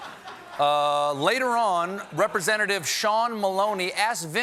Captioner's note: laughter